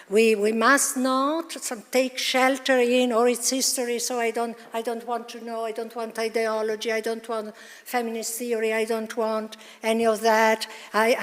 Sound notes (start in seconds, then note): none